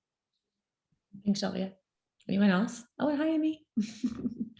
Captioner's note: chuckles